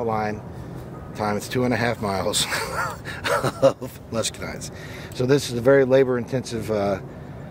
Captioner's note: laughing